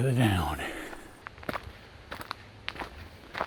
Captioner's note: footsteps